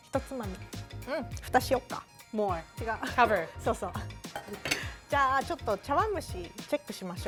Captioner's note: speaking Japanese; speaking Japanese